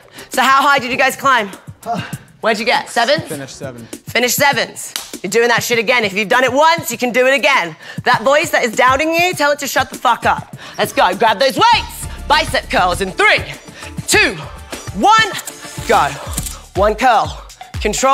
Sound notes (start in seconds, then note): 1.7 gasping